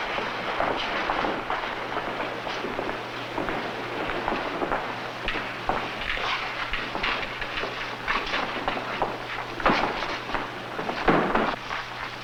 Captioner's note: footsteps